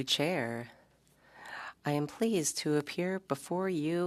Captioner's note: speaking French